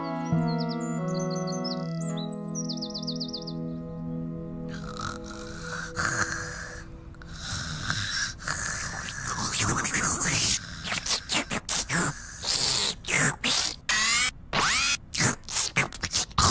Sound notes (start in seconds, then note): 0.0 birds Chirping; 4.7 Po Snoring; 8.7 Noo Noo Slurping